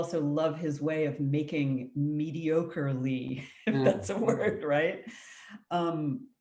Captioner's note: laughs